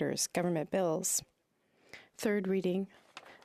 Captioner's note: speaking French